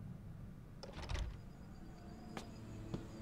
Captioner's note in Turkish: Kapı açılma sesi; Ayak sesi